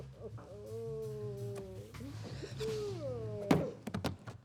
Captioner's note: sobbing